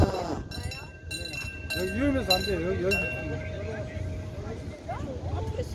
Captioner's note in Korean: 차단기 소리